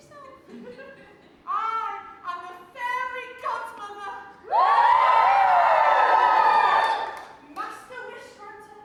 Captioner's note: audience cheers